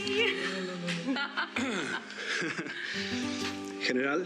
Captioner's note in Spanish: risas